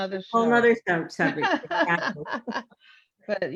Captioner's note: chuckles